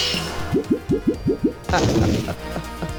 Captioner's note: wobbling; softly chuckles mockingly